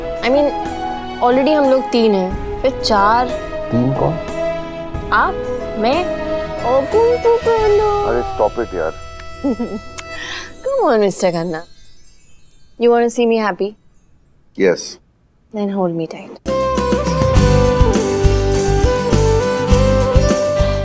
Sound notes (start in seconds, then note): 9.4 Giggling